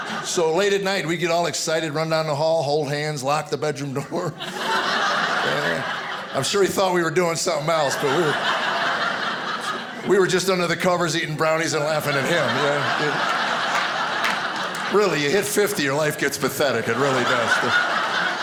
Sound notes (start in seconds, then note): 12.8 audience laughing